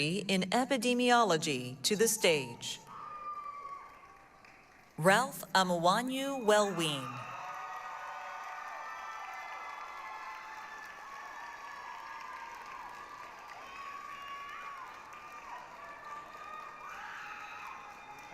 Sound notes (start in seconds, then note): 7.4 applause, cheering